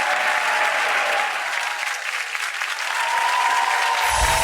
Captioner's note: audience cheering